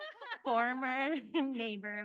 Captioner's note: laughing